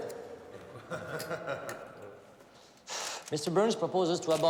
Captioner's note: person laughing